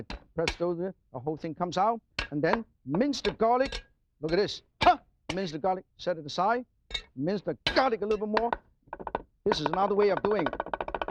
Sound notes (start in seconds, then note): 5.0 Martin shouts; 10.8 knife clangs